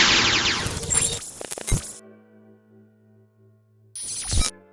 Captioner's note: lasers fire; metallic bleeps